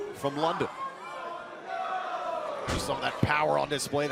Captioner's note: crowd cheering